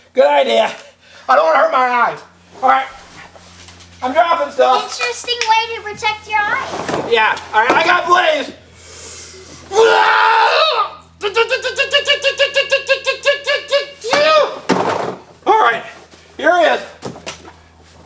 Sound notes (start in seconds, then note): 9.6 screaming